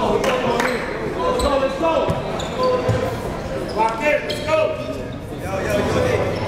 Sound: players yelling

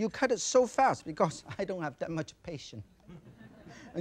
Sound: audience laughs softly; chuckles

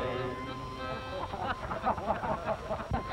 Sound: laughter

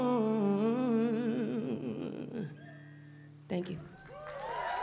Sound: crowd cheering

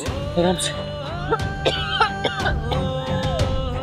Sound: coughs

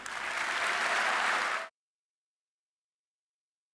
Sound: audience applause

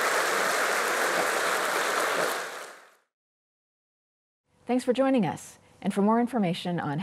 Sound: applause

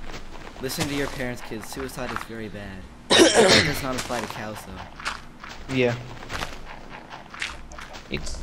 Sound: clears throat

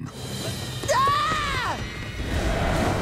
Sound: screaming

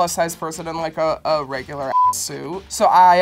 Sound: beep

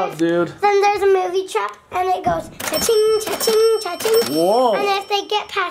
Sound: imitates cash register

